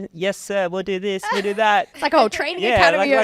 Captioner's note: laughing